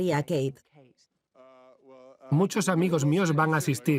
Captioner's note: stammers